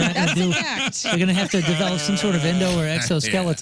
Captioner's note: laughing